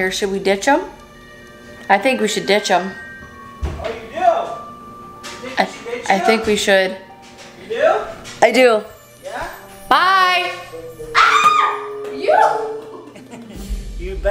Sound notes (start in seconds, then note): 11.1 screaming